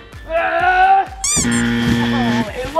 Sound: yelling; buzzer ringing

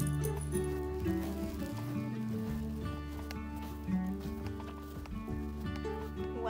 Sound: puppy snorts, collar jingling; snow crunching, music fades

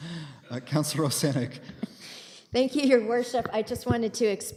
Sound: chuckling

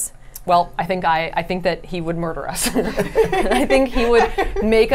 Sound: laughs

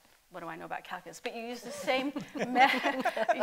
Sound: laughter

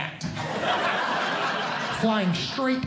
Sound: audience Laughing

